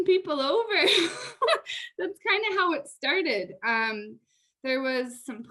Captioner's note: laughter